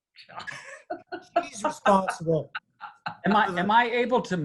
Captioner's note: laughs